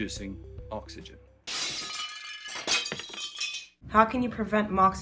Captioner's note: glass breaking